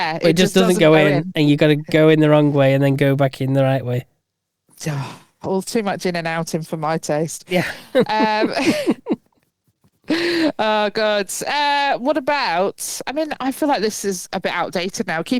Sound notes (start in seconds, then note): 7.5 both laughing